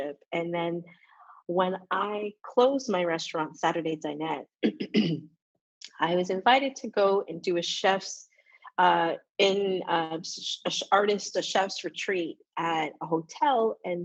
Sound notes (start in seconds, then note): 4.6 coughs